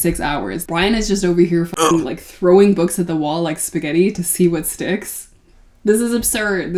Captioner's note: grunt